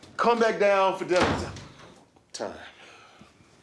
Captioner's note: door slams